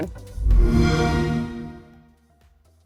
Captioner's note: xbox sound